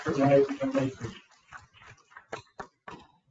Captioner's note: people clapping